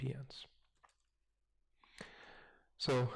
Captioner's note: pause